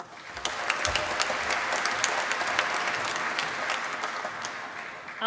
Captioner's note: applause